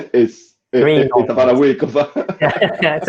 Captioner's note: laughing